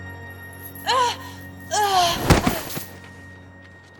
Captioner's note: grunting